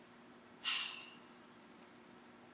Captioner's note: exhales loudly